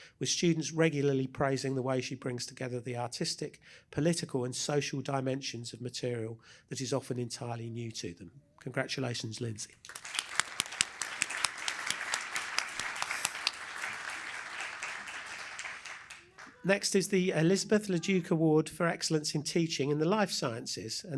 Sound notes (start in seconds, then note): 9.8 applause